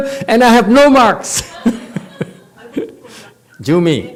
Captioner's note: laughs